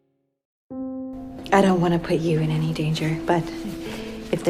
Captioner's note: voiceover